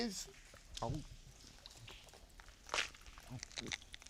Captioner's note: gulps coin